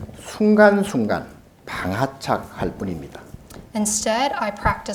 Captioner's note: speaking Korean